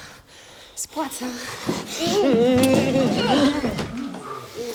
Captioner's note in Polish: Namiętne MmmmMmmm